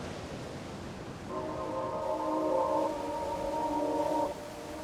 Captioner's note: water sloshing